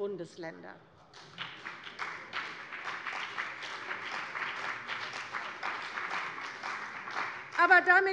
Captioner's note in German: Beifall bei der CDU und dem BÜNDNIS 90/DIE GRÜNEN